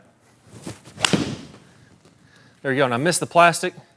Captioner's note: club striking ball